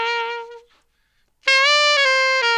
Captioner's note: none